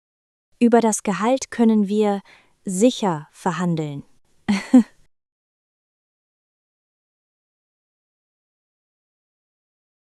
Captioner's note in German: lacht